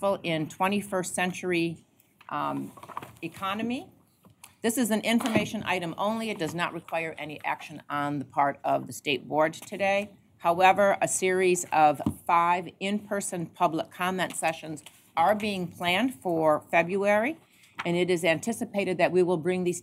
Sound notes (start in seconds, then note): none